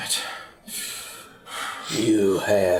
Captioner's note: deep breahs